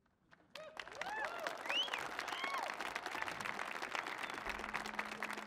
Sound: audience cheers and applauds

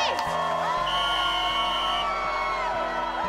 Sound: whistle blowing

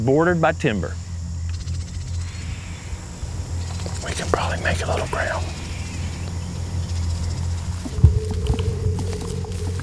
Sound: whispering

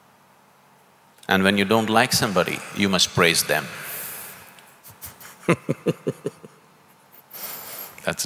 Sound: laughs

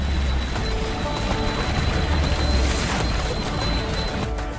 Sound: monohull roaring; bright music

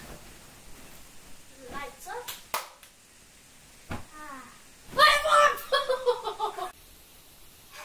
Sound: clap-Clap; sigh; fast-forwarded speaking

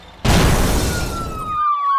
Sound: explosion; sirens blaring

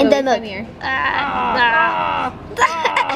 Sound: fighting grunts

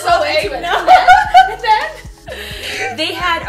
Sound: laughter

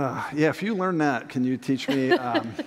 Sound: laughter

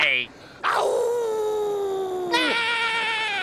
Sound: howling; yelling

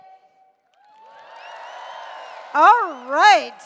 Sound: cheers

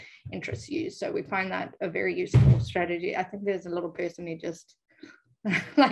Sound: door slams

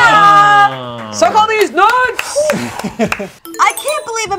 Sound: clapping

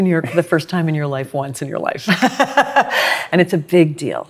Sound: laughs

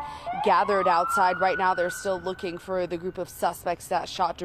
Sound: siren

